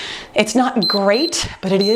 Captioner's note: timer beeps